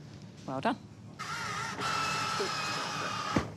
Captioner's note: rex whirrs; thud!